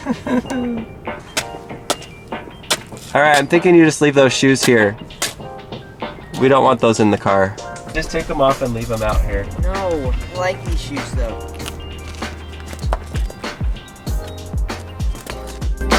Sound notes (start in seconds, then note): 0.0 laughs; 1.0 feet scraping pavement